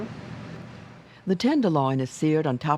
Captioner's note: voiceover